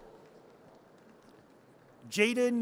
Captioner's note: audience cheers